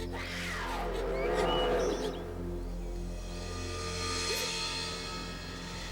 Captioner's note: tense eerie music; growling